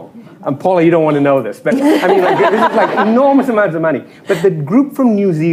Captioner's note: laughter